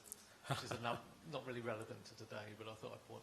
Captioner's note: laughs